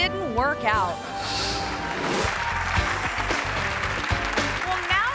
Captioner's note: audience applauding